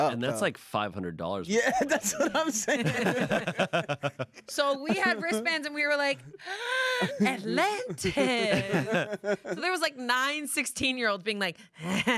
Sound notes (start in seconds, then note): 1.5 everyone laughs; 6.4 gasps